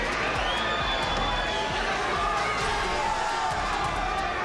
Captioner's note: crowd cheering